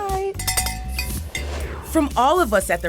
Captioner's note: cowbell rings; graphics whooshing